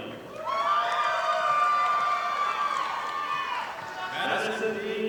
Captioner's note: audience applauding